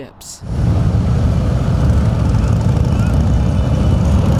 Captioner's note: motors rumbling